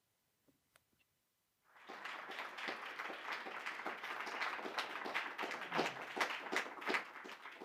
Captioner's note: applause